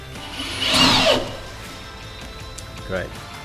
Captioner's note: drill starts